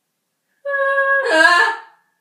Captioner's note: screaming